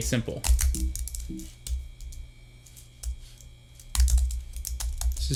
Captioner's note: keyboard noises intensify